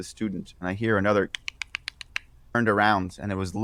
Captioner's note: clicking